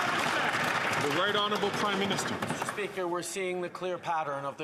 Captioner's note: some Applause